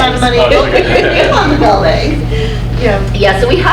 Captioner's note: laughs